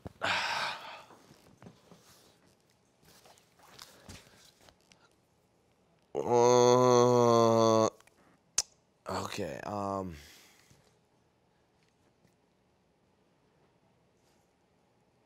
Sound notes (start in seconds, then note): 0.2 exhales deeply; 6.1 moaning